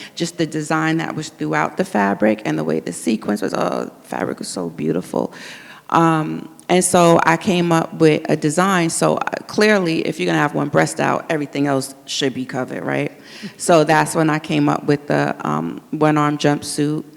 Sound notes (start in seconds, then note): none